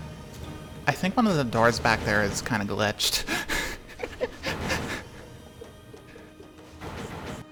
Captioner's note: giggles